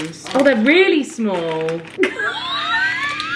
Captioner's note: laughing